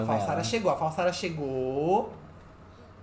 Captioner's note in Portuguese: Sims conversam